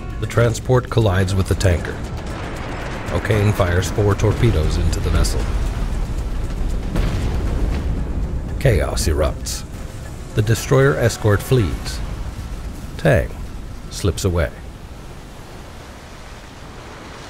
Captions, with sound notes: The transport collides with the tanker. O'Kane fires four torpedoes into the vessel. (torpedoes exploding) Chaos erupts. The destroyer escort flees. Tang slips away.